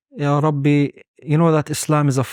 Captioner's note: speaking Arabic